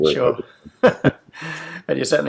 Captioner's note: laughs